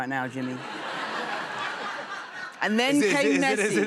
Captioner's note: laughter